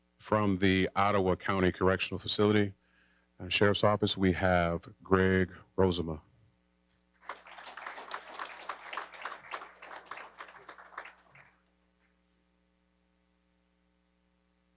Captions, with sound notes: From the Ottawa County Correctional Facility and Sheriff's Office, we have Greg Rozema. (applause)